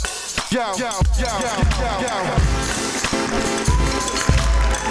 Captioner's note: cheers and Applause